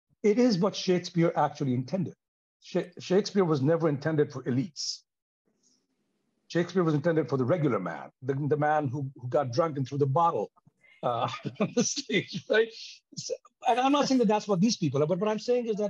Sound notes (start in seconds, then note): 11.0 chuckles